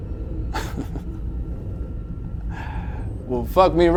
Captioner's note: Jack chuckles